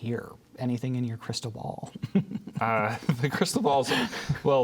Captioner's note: laughs